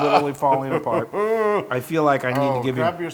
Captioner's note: laugh